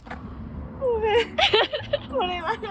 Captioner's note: crying